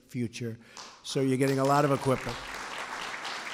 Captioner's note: applause